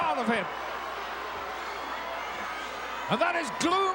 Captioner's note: crowd yelling